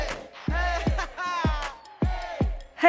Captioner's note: singer laughs